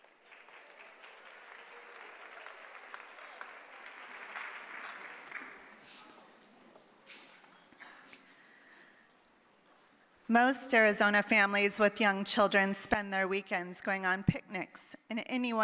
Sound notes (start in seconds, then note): 0.0 applause